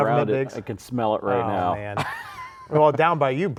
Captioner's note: laughs